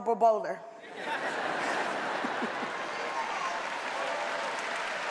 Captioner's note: audience laughs